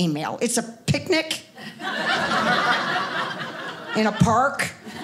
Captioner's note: audience laughing